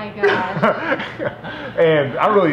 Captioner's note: laughs